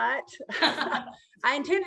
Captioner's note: laughter